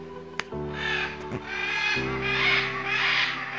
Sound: macaws squawking

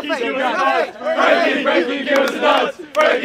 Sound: everyone chanting

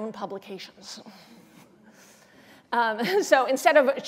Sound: laughter

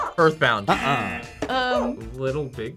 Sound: buzzer; buzzer barks

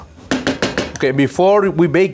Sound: spoon thumps

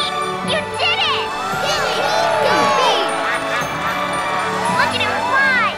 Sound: cheering

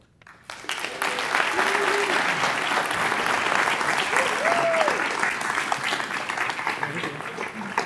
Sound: applause

